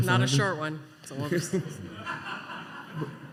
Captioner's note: scattered laughter